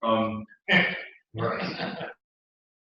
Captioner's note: laugh